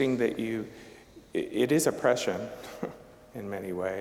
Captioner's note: chuckling